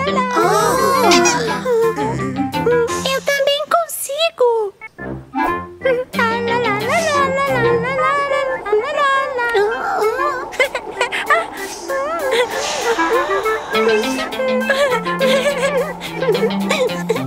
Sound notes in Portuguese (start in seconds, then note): 10.6 Risos